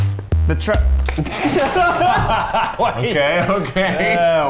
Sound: laughter

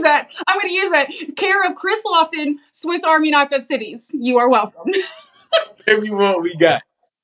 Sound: laugh

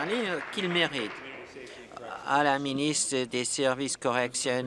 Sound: applause

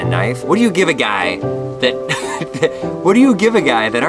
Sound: laughing

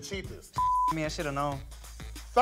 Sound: beep

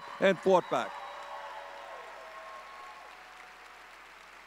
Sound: audience cheering

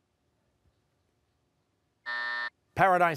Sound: buzzer

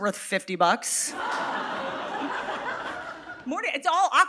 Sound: audience laughing

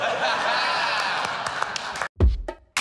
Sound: laughter

